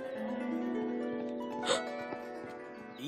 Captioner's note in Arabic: يلهث